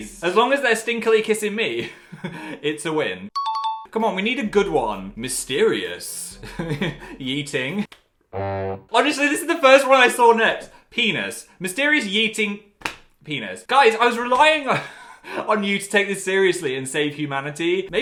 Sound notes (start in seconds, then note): 2.4 laughs; 3.5 cheerful music; 6.3 laughs; 8.3 horn blowing sardonically